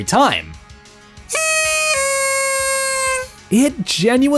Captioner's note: blows on the party whistle again